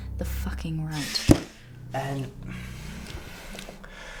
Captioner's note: hits table